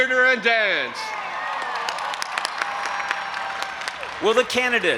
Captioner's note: audience applauding and cheering